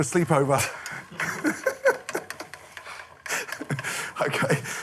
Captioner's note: laughing